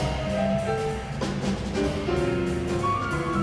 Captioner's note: none